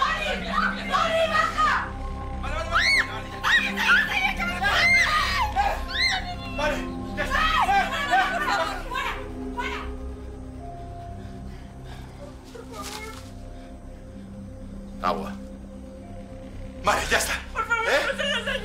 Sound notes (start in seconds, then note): 4.9 girls screaming